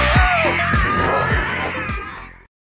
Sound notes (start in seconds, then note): 0.0 more screaming